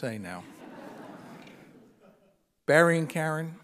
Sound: audience laughing

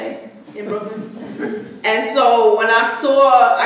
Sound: audience chuckling

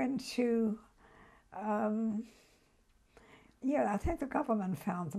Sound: pauses for 3 seconds

